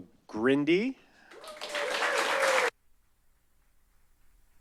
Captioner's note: applause